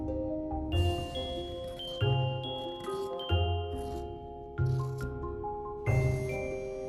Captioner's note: quiet snipsnipsnip